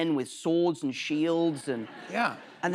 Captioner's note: laughter